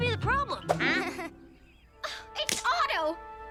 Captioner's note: Lizbeth laughs nervously; gasp